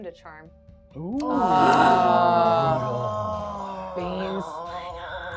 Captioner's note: everyone groaning